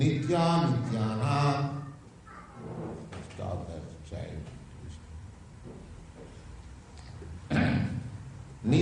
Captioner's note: child fretting